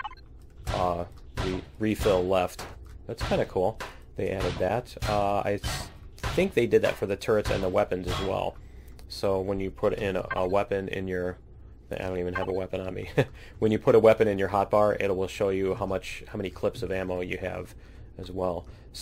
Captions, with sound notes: refill left. That's kind of cool they added that. I think they did that for the turrets and the weapons as well so when you put a weapon in your -- I don't even have a weapon on me. [laughs] When you put a weapon in your hot bar it will show you how many clips of ammo you have as well.